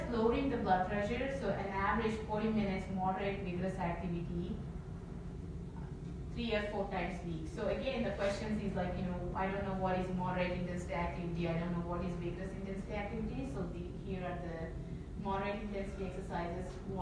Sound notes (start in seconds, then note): none